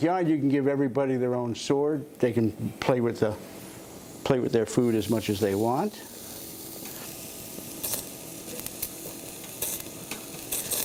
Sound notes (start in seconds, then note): 6.4 sizzling